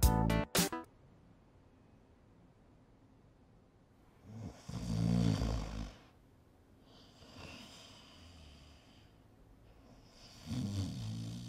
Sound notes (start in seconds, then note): 4.2 snoring